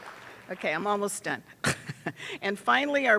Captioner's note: attendees applauding; laughs